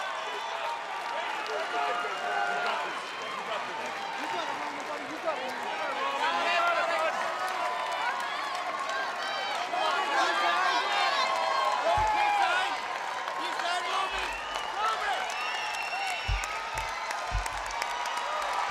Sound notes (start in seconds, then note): 5.6 applause